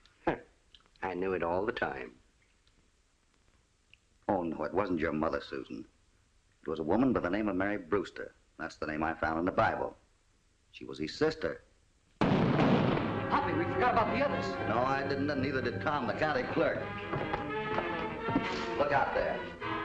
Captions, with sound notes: Huh! I knew it all the time. It wasn't your mother, Susan. It was a woman by the name of Mary Brewster. That's the name I found in the Bible. She was his sister. [ GUNSHOTS ] We forgot about the others! No, and neither did Tom, the county clerk. Look out there.